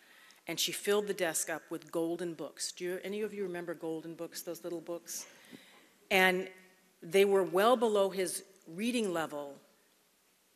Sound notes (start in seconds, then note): none